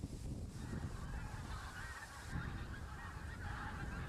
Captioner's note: geese honk in background